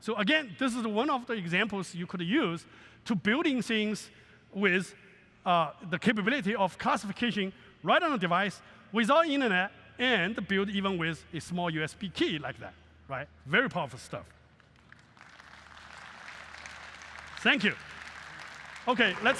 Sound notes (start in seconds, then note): 14.5 applause